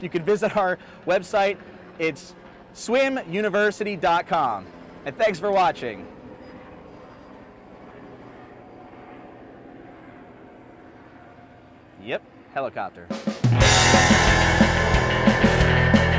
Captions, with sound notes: you can visit our website. It's SwimUniversity.com and thanks for watching. (helicopter engine roars) Yep helicopter. (upbeat music)